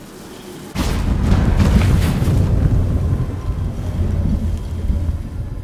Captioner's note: portal rumbling